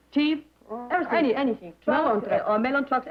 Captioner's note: chatter